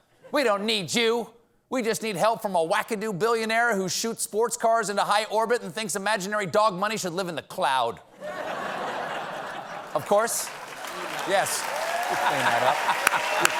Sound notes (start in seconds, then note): 8.2 laughter; 9.5 applause